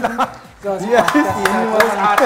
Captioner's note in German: Jubel; Lachen